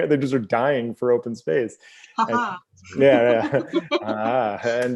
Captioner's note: both laugh